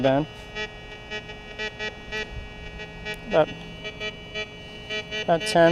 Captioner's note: detector beeps